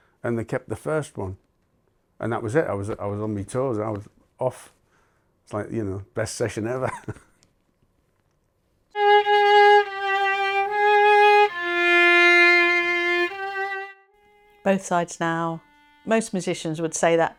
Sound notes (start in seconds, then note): 6.8 chuckles; 8.9 sombre violin music